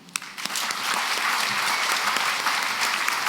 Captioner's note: applause